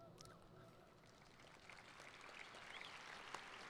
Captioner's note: applauding